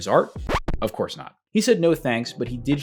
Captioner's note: record scratching